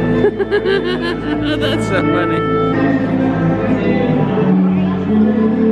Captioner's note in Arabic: يضحك